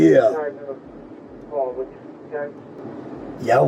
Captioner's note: radio chatter